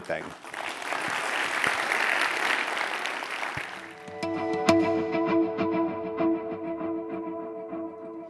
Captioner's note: applause